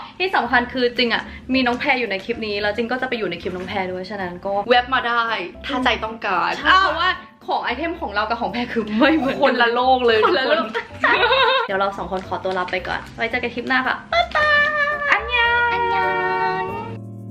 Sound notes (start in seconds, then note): 10.0 laughing; 15.0 korean: Goodbye